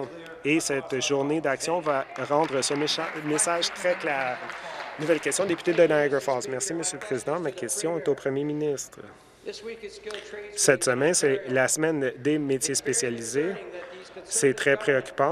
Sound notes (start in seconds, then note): 5.7 applause